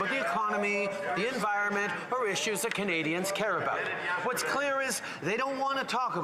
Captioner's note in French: voix de l'interprète